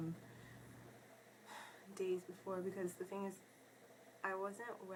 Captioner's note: sighs